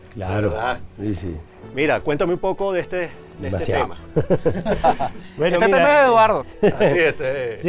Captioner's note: laughs